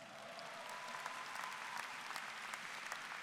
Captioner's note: applause